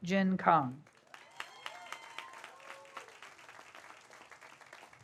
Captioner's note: audience applauds